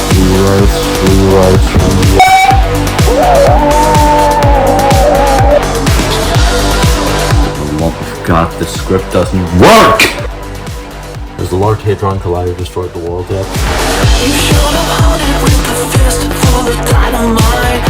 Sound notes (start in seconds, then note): 3.0 screams of literal fucking agony